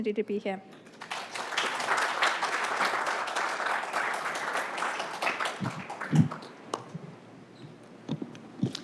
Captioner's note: applause